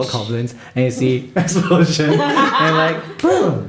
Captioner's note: laughter